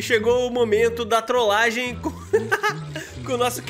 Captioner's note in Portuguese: risos